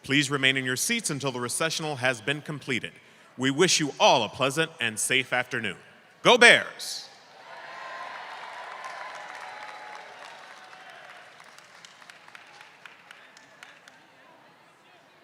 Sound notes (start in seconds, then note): 7.3 crowd cheers; 7.8 crowd claps